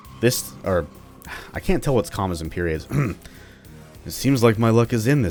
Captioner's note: clears throat